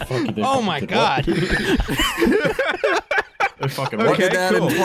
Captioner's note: laughs; laugh uproariously